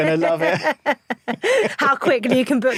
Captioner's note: both laugh